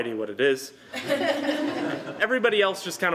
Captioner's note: laughter